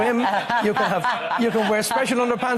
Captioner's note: laughs